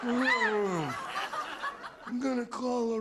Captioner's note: laughter